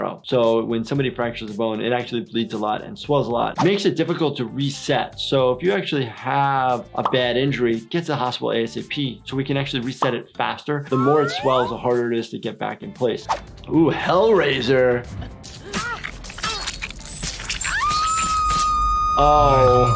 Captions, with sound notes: so when somebody fractures a bone, it actually bleeds a lot and swells a lot. Makes it difficult to reset. So if you actually have a bad injury, gets to a hospital ASAP so we can actually reset it faster. The more it swells, the harder it is to get back in place. Ooh, Hellrazor. (chains clanging) (character screams) Oh, my.